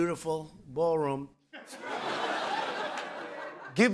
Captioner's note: laughter